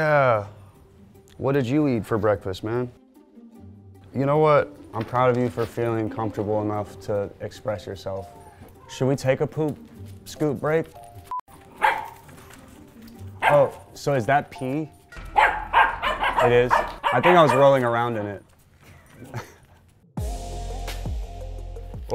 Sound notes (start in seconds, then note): 11.6 dogs barking; 20.2 upbeat music